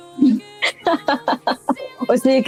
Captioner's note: laughs